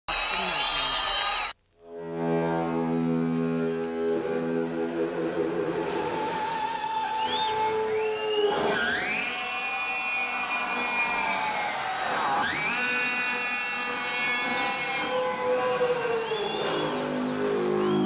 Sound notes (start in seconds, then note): 0.0 audience cheering; 1.8 dramatic guitar music; 2.4 audience cheering